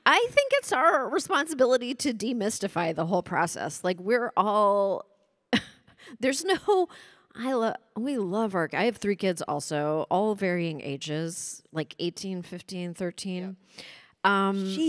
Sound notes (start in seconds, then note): 5.2 chuckles